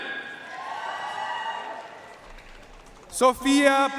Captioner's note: audience cheering and applauding